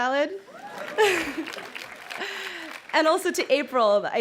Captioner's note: crowd cheering and clapping